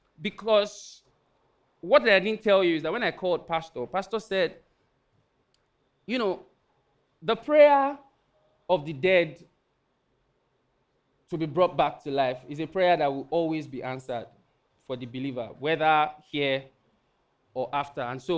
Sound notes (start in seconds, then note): none